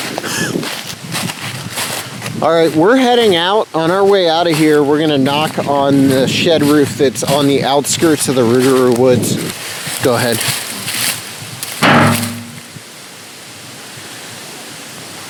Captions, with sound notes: (leaves crunching) All right, we're heading out. On our way out of here, we're gonna knock on the shed roof that's on the outskirts of the roguery woods. Go ahead. (tree knocker bangs)